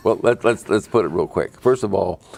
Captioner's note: laughing